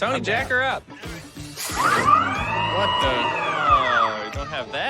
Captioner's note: hydraulics whir